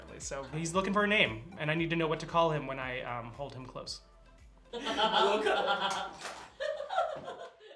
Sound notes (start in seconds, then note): 4.7 laughter